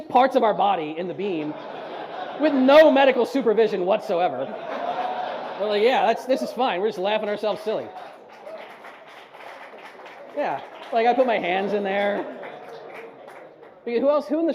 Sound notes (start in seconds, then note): 4.3 audience laughs harder; 7.7 scattered audience applause